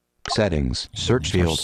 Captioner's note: electronic Voice